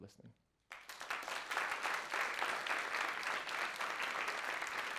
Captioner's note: applause